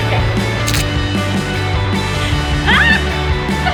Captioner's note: shutter closing; screams; laughter